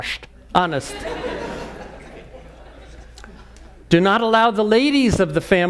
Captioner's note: laugh